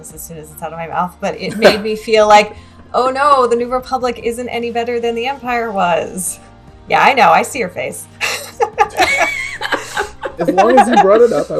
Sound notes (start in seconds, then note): 8.2 laughter